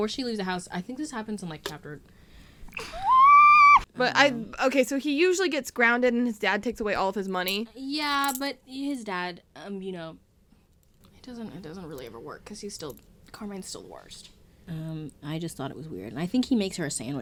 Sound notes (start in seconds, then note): 2.8 screams for editing me